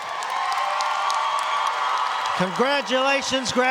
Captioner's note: audience applauding